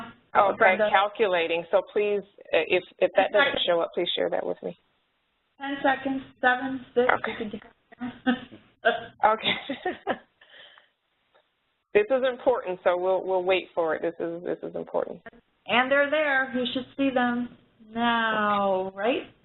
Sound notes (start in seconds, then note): 9.4 laughter